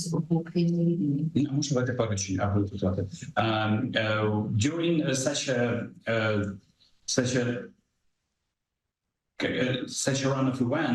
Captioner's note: speaking ukrainian